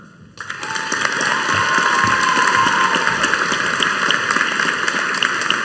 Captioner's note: audience cheering and applauding